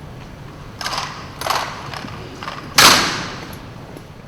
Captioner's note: gunfire